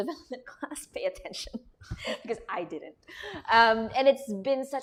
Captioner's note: laughter